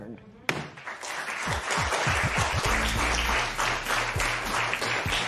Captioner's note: applause